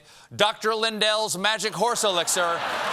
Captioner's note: applause; laughter